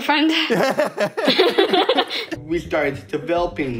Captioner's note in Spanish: risas